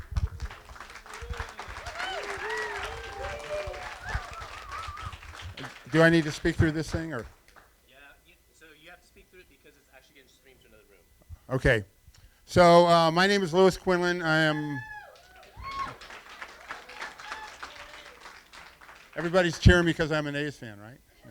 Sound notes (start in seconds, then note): 0.0 applause; 14.3 cheering; 14.9 applause